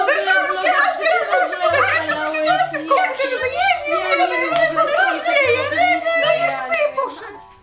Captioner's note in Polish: panika, krzyki